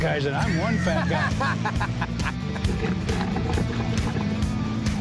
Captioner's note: laughs